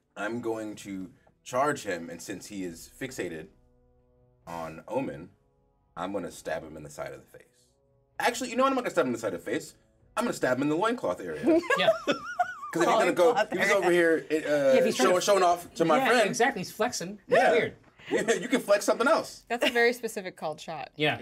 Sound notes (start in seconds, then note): 11.4 chuckles; 11.4 laughs; 11.4 speaker laughs